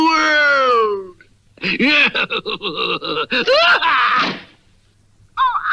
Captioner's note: Simon Bar Sinister Laughs & Closes the Door